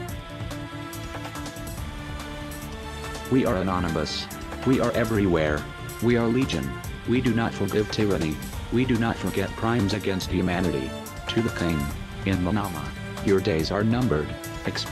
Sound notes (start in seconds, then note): 0.2 upbeat instrumental music; 11.3 speaking in a foreign language